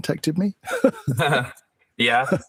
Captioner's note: laughing